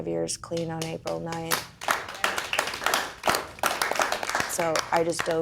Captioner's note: applause